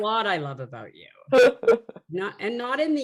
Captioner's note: laughing